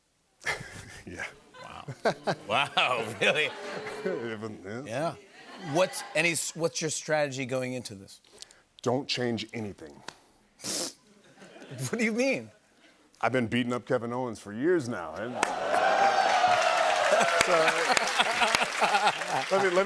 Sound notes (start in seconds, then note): 0.4 chuckling; 2.4 audience booing; 10.3 laughs; 15.3 cheers and applause; 17.1 laughter